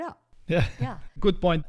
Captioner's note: laughs